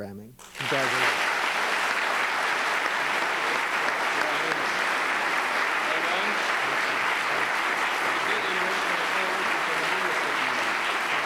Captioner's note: applause